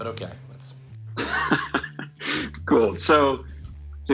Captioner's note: laughs